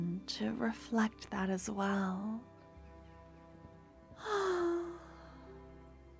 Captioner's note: sigh